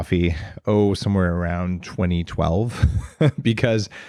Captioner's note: chuckles